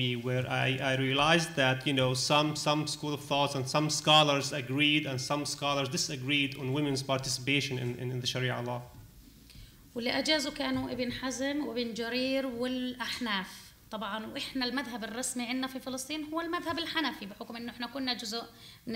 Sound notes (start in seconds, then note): 10.0 speaking arabic